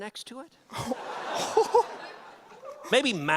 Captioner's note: audience laugher